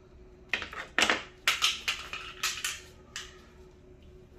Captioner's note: falling damper sound